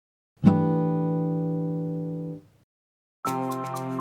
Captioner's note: chime sounds; upbeat music